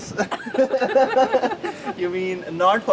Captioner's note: laughter